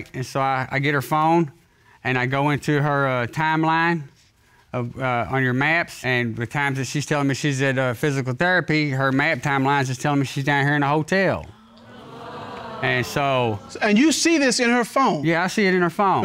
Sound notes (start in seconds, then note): 11.6 audience exclaims